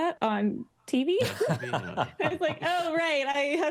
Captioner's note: laughing